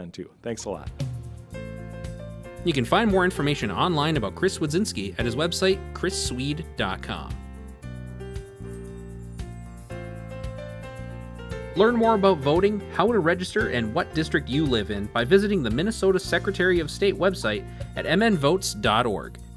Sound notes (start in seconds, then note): 2.6 voiceover; 7.4 gentle music